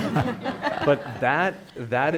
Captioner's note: people laughing